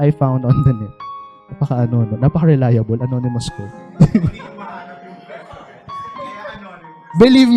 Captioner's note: laughter